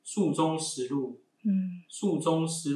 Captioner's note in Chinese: 朗讀